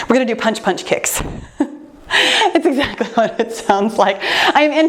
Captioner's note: laughs